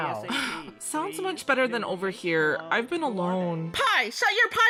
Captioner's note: sigh